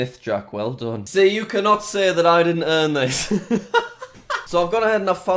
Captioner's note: laughs